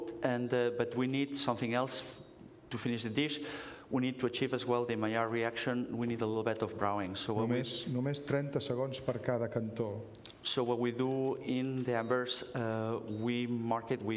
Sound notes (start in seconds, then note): 8.4 speaking catalan